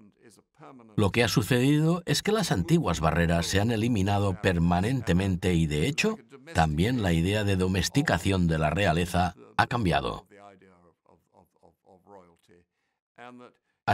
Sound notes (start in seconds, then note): none